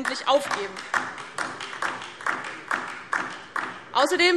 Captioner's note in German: Beifall DIE LINKE